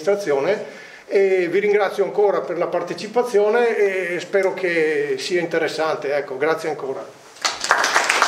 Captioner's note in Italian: Applauso